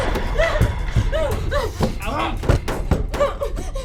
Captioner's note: banging